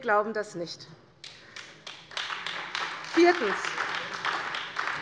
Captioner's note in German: Beifall bei Abgeordneten der CDU und der FDP